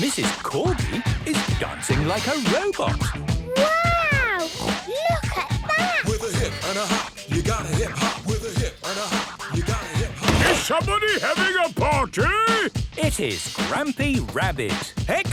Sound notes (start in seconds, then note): 10.4 shouts